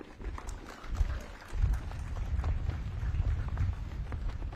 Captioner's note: audience claps